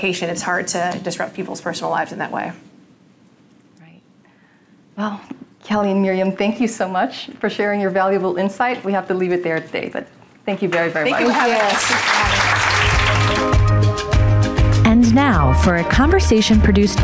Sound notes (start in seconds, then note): 11.0 audience applauding; 12.2 upbeat music